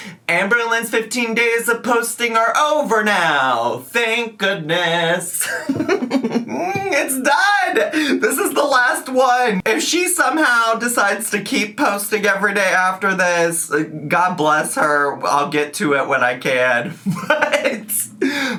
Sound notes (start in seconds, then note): 5.4 laughs; 17.0 laughs